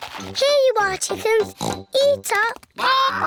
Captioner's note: oinks